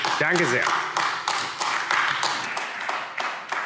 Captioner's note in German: Beifall AfD